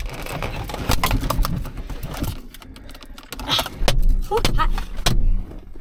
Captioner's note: mirror cracking